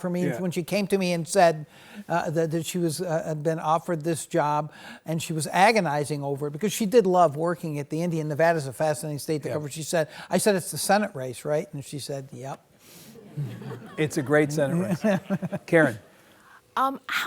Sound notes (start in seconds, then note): 13.2 audience laughs; 14.7 laughs